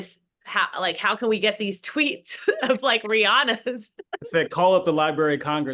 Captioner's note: laughing